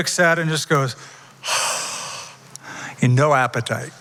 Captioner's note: sighs